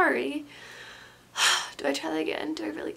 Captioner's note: sighs